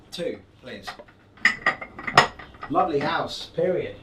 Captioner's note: cups clinking